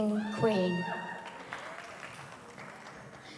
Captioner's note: woman cheers